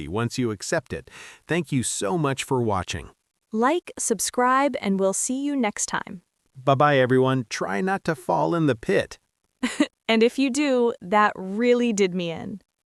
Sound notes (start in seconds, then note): 9.6 laughs